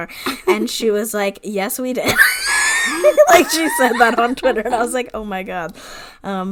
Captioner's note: wheeze laughs